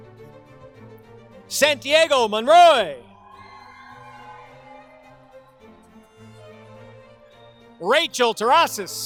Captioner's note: applause